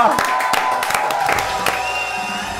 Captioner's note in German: Jubel, Applaus